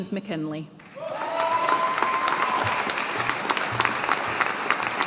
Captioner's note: audience applauding